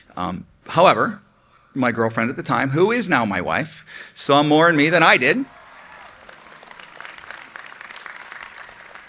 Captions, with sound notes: However, my girlfriend at the time, who is now my wife, saw more and me than I did. (applause)